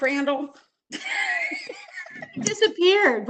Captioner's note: laughs